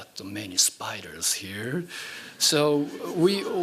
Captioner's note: laughing